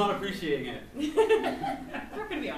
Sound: laughs

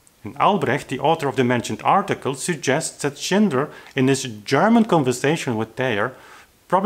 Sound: German

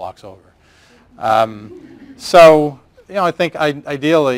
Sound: laugher

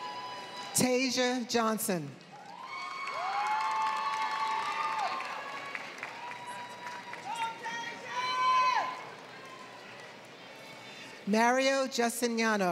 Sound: applause

